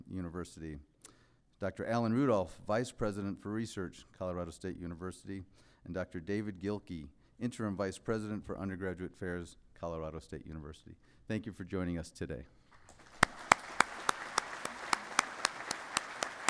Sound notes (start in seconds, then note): 12.7 applause